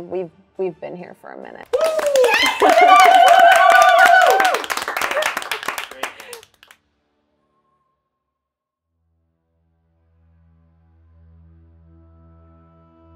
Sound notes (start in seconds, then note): 1.7 all clapping; 1.7 all cheering; 10.0 suspenseful music